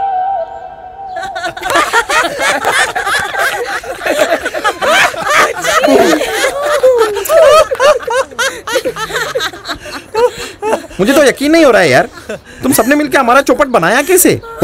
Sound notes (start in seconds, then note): 1.2 Everyone laughing